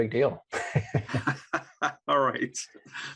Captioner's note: both laugh